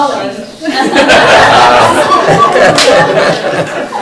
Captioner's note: group laughing